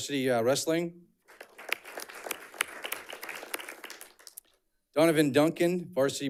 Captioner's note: audience clapping